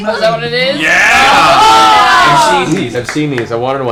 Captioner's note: cheering